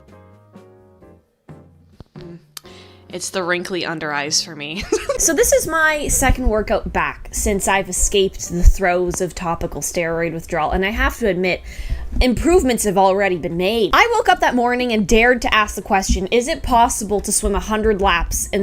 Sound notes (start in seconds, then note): 2.5 tongue click; 4.8 chuckles